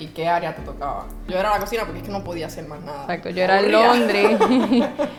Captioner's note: laughs